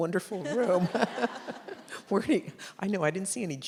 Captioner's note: audience laughs